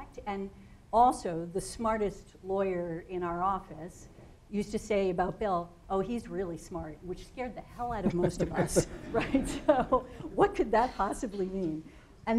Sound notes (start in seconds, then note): 7.8 laughing